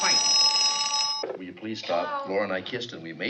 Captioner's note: telephone ringing